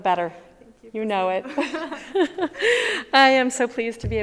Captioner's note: both chuckles